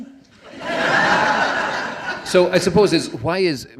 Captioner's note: laughing